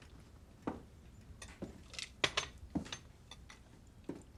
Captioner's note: cutlery clanking